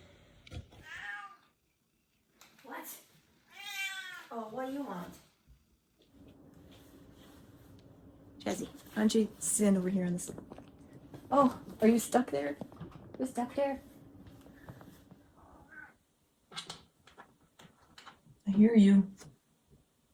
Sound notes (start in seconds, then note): 0.1 Otto meowing; 3.5 Otto meowing louder; 16.4 Chaz meowing and destroying stuff in the background